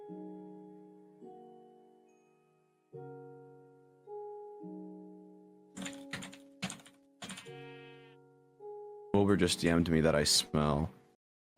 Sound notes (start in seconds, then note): 0.1 music; 7.2 typing; 7.5 sheep bleats